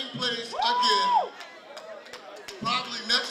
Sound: crowd members whooping and clapping

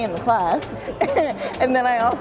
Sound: laughs

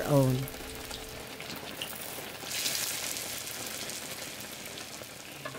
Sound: frying sizzling

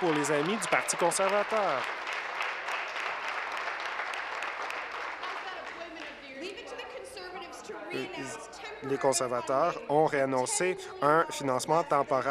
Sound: applause

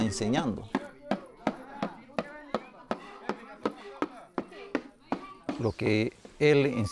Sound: drums beating; people chanting

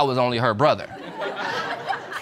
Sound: audience laughing

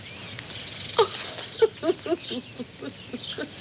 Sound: sobs

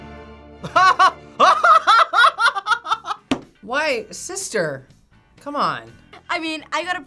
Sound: laughs

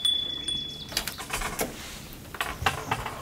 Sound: ringing

